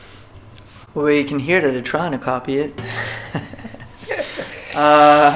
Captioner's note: laughs